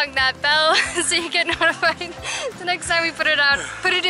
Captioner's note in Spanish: Risas